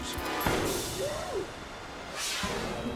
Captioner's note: gunfire blasts; air whooshes